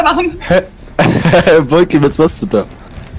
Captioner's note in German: lacht